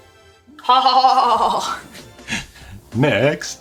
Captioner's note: laughing